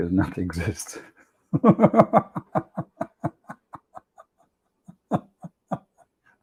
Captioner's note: Ketawa